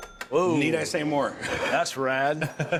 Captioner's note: chuckles